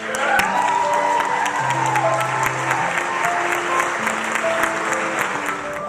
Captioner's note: applause